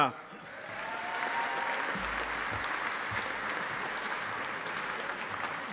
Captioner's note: audience applauding